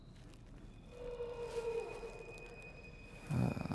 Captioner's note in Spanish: sonido de animal